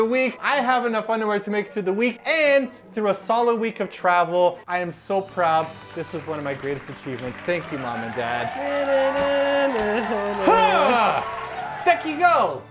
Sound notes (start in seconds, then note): 8.7 applause sfx; 10.4 manly grunt